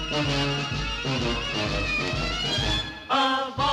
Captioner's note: horn